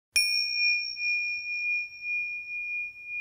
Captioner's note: bell rings